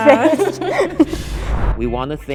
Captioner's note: group laughing